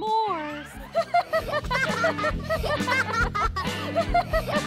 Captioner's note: girls laugh